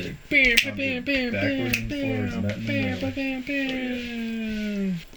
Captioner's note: band member imitating guitar